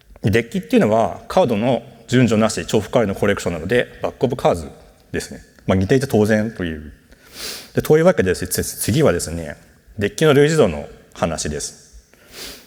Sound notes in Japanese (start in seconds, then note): none